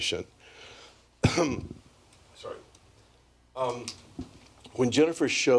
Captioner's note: cough